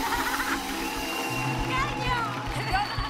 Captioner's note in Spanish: aplausos